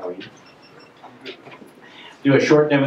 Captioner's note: voiceover